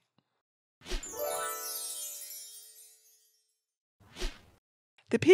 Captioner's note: chimes twinkling